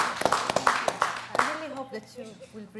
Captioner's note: applause